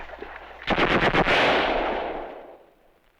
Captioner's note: gunfire